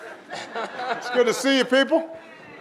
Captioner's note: audience laughing